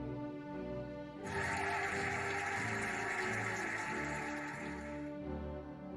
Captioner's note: cheering and applauding